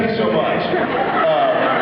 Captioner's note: laughs